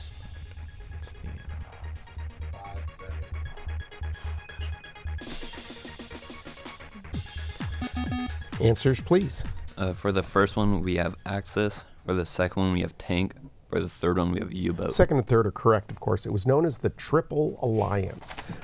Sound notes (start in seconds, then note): 7.8 bell